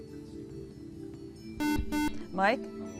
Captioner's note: beep